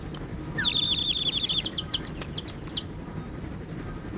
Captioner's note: chirping